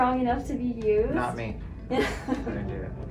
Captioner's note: laughing